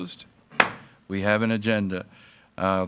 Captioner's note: gavel banging